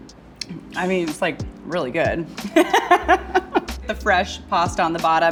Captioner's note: laughs